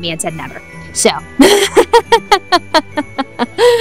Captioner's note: laughs